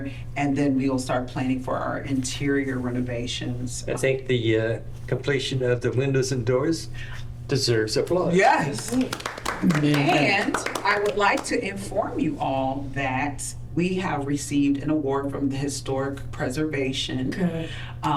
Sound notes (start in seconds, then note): 8.7 applause